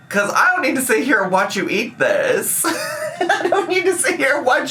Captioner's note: laughs